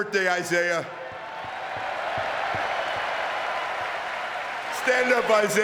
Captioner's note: audience cheering and clapping